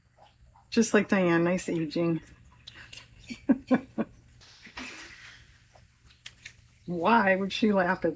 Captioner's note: laughs